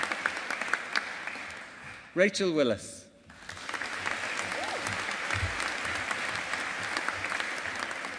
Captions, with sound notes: Rachel Willis. (AUDIENCE APPLAUDING)